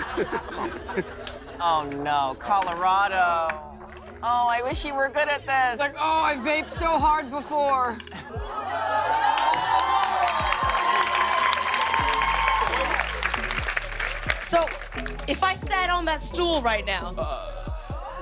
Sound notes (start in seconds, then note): 8.4 cheers and applause